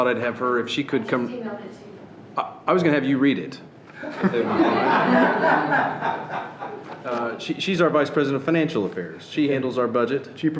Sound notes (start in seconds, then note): 0.2 speaking off microphone; 4.0 laughing